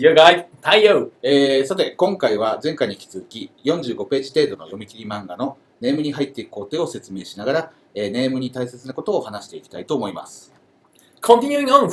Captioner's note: speaking Japanese